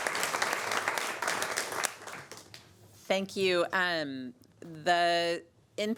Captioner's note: applause